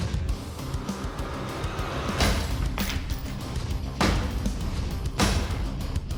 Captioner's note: chopping sound